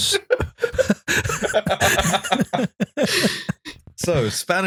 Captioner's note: laughter